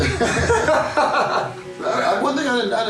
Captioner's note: both laughing